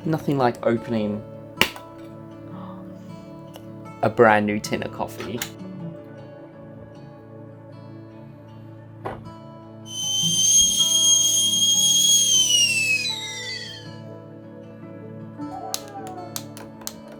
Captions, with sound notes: - Nothing like opening a brand new tin of coffee. (kettle whistling) (slow tempo music)